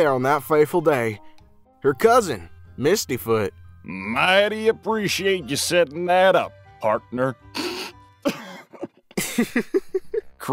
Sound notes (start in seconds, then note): 4.2 western Accent/Sheriff; 8.2 drops the act and both laugh